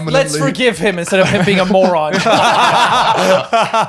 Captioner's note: laughs